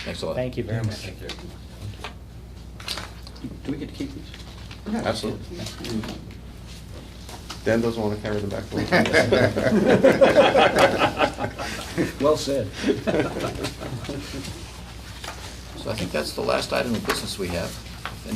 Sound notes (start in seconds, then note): 8.7 laughter